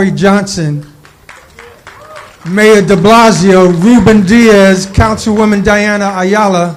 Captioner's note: applause